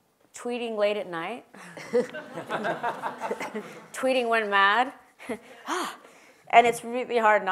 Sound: laugh

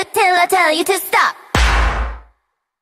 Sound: clap

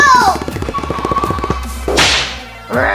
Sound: footsteps thudding; whip cracking

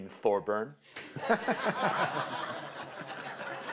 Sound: laughter

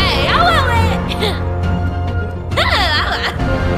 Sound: cute d e m o n i c laughter

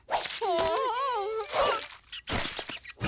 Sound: grunting

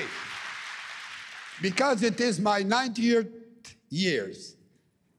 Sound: cheering and APPLAUSE

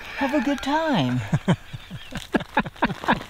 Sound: laughing

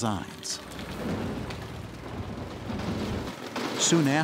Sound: construction sounds

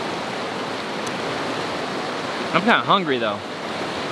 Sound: water rushing

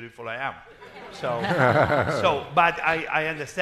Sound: crowd laughing

